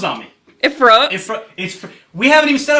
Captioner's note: stammering